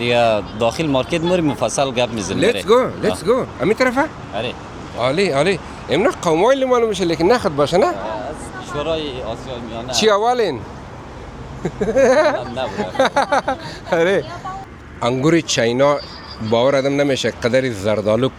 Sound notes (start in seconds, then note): 11.6 laughter